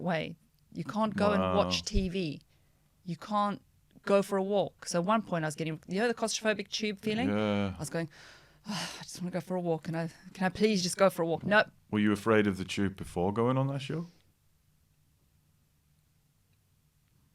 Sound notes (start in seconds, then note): 5.3 sighs and gasps